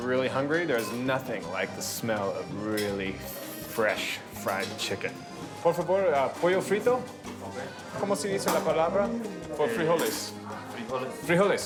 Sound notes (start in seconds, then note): 7.6 speaking Spanish